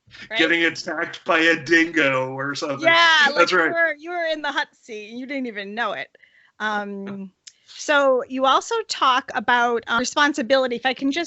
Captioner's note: laughter